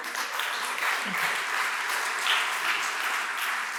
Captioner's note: applause